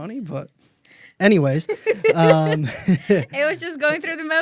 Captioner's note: laughs